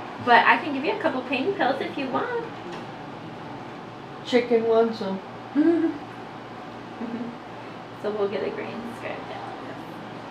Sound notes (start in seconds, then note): 7.0 giggles